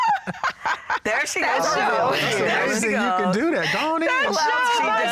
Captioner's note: laughter